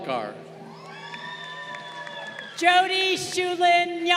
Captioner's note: crowd cheering